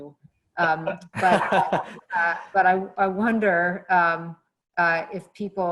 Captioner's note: laugh